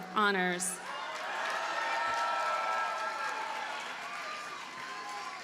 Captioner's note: audience cheers and applauds